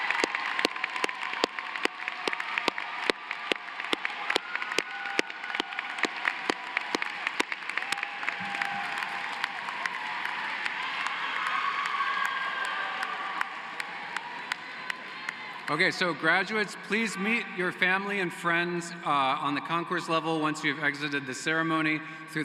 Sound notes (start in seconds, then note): 2.9 applause